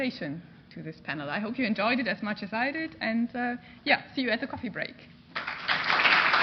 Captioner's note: applause